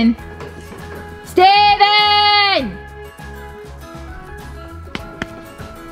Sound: yells loudly

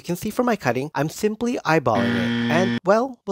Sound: wrong buzzer sound

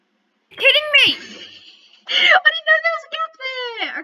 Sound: laughing

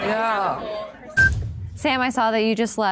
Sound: timer beeping

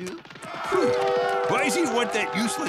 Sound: laughing; sighing

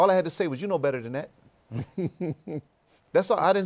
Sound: laughs

